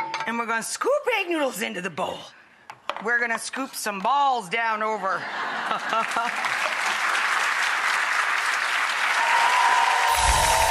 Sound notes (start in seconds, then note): 5.2 audience laughs; 5.7 audience applauds